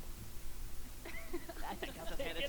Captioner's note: laughing